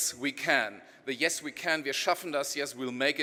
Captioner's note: speaking in foreign language